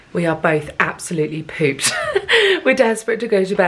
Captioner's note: laughs